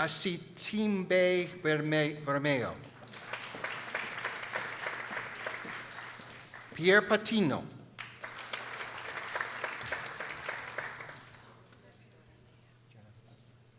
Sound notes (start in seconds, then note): 2.8 people applauding